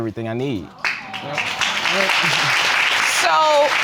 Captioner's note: audience applauding